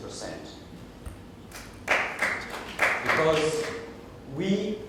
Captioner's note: applause